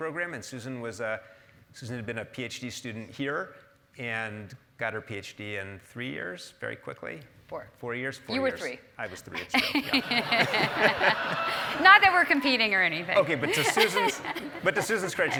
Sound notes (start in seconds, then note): 9.1 laugh